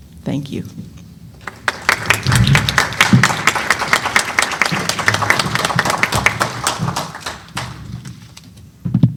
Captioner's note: applause